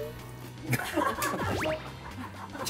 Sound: holding in laughter

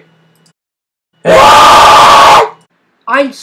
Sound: goat scream

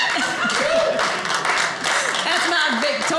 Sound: audience applauding

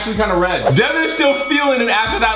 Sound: bell ringing three times

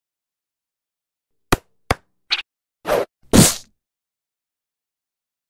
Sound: playful sound effect

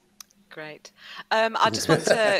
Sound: laughs

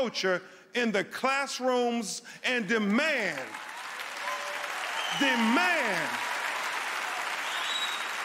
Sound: cheering

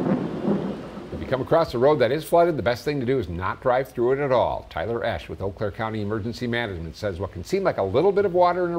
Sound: thunder

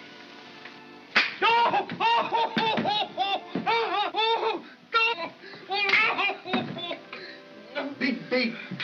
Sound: snap; pained shouting

